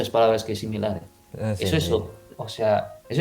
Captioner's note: Spanish